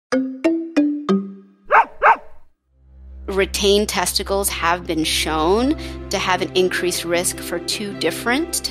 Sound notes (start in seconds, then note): 0.0 dog bark